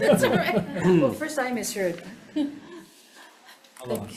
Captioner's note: laughs